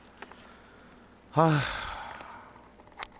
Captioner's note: sighs